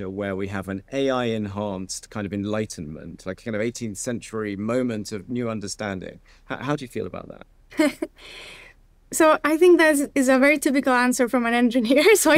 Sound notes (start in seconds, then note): 7.7 chuckles